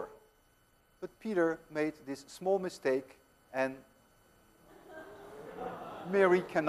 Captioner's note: students laugh